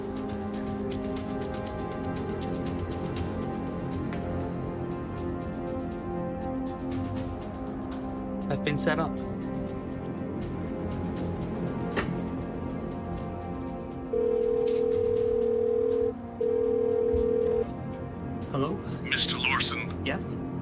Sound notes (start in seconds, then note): 0.1 pensive jazz music continues; 9.7 droning music; 13.9 phone rings